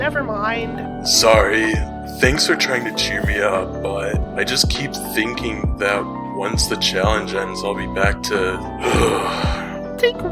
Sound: groan

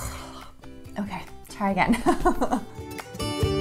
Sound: laughing; light upbeat music

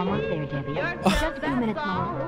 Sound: scoffs

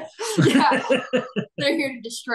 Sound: chuckling; laughing

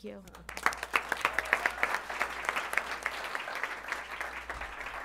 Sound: applause

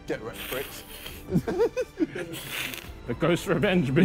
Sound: hissing

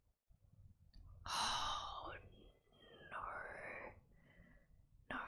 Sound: whispers

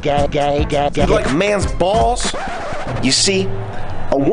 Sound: record scratch

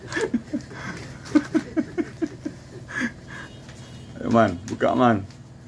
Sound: laughing

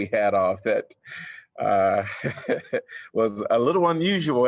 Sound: laughter

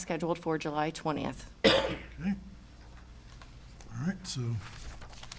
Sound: attendee coughs

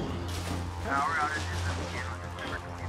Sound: radio broadcasting

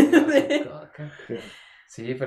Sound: laughter

